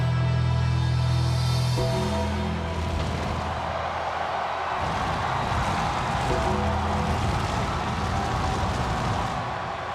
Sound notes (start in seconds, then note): 0.9 ominous music continues; 3.9 audience continues cheering